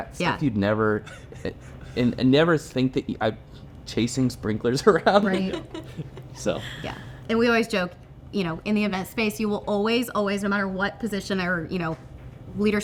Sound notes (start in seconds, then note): 4.8 laughing